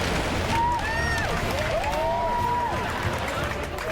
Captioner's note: cheering and applause